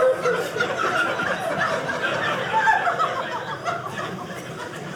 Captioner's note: audience laughing